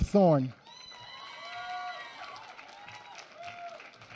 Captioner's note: applause